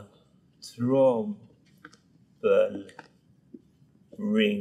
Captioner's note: Ruben speaks Swedish